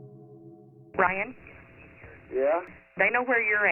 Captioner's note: on phone